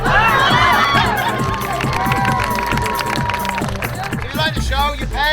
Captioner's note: audience cheering and applauding